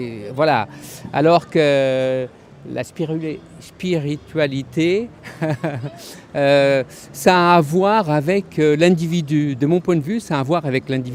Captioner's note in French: rires